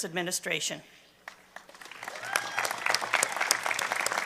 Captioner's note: applause